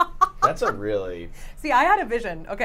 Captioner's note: laughs